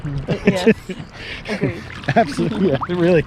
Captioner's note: laughs